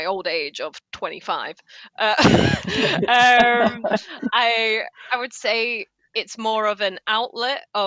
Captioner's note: laughs